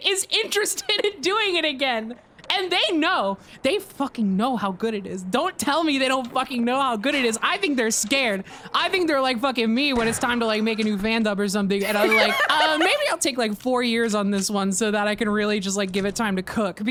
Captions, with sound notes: is interested in doing it again! And they know! [aggressively] They fucking know how good it is. Don't tell me they don't fucking know how good it is! I think they're scared! I think they're like fuckin' me when it's time to like, make a new fandub or something and I'm like, "Umm, maybe I'll take like four years on this one so that I can really just like, give it time to cook